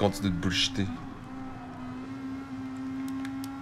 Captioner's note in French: vrombissement étouffé de voitures